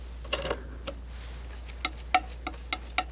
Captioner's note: scratching